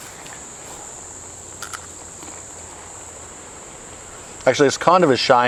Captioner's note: chili crunches